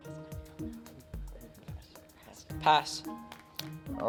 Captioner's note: teammates whispering